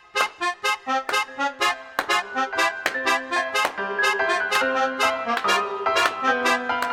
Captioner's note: creepy circus music; Morty clapping